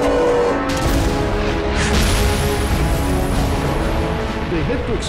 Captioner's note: explosions booming